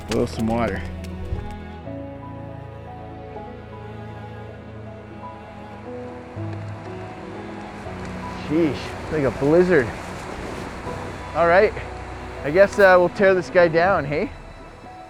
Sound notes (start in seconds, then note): 1.6 inspiring music plays; 5.7 wind blows